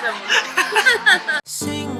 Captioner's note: laughing